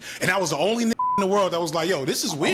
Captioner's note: beep